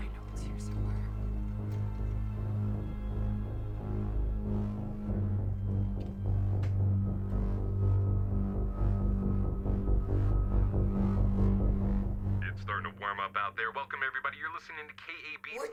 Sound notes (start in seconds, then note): 2.5 tense music; 12.2 radio Announcer